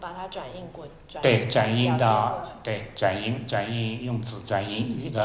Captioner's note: Mandarin